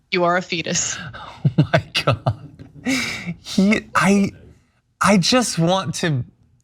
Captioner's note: laugh